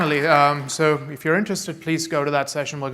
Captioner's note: applause